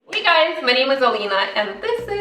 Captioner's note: hand clapping